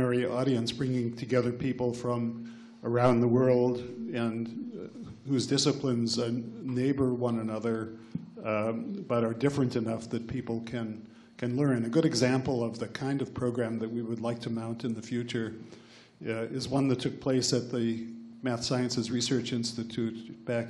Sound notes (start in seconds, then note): none